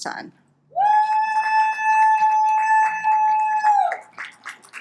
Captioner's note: audience applauds